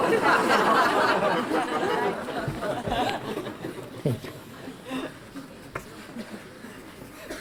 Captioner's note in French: Rires